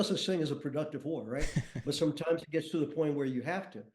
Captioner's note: chuckles